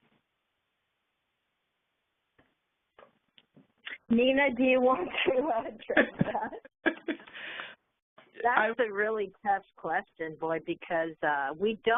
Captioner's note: laughing